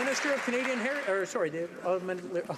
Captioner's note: some Applause